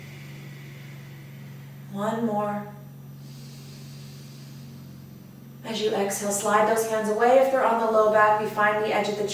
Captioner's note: audible breath; big inhale